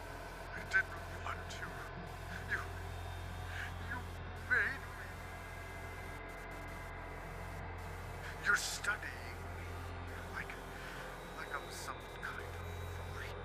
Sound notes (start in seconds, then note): 5.2 static buzzing